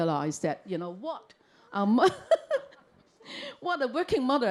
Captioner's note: chuckles